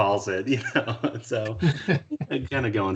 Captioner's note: chuckling